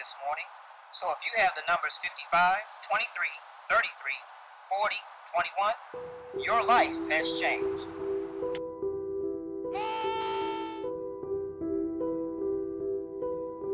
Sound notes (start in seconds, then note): 9.7 dramatic music; 9.7 screaming